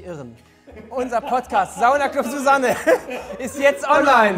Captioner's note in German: Lachen